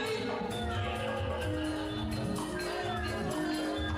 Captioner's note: none